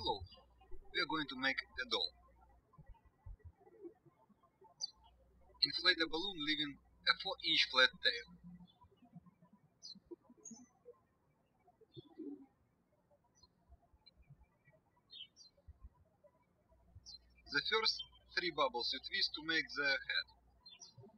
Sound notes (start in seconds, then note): 2.9 birds chirping; 9.2 birds chirping